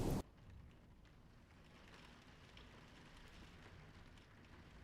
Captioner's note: rain pattering